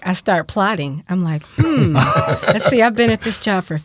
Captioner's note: laughing